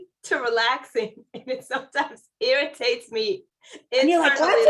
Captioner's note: laughter